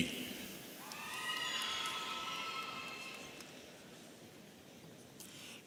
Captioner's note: audience cheering